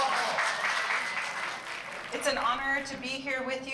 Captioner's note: applauding